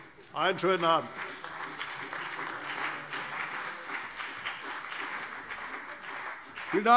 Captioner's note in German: Beifall CDU und BÜNDNIS 90/DIE GRÜNEN